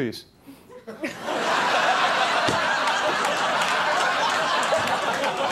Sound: audience laughs

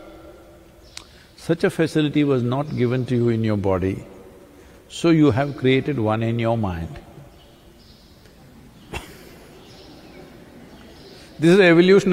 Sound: laughs

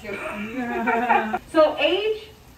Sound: all laughing

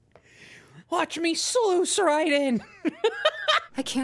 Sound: laughter

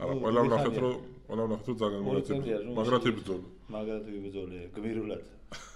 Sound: laughs

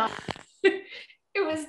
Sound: laughs

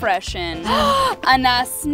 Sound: gasps

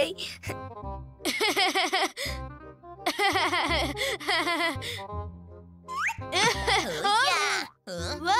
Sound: laughing

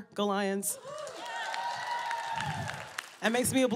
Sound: cheering

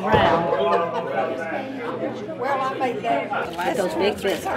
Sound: crowd chatter

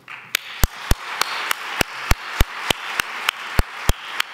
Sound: audience applause

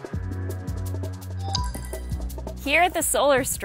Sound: upbeat, uplifting music; computerized dinging sound

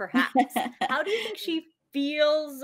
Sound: laughs

